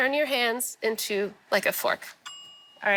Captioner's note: bell dings